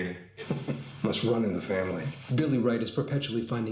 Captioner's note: ironic laugh